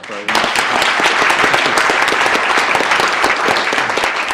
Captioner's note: applause